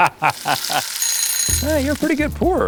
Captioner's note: Rhett laughs; kitchen timer rings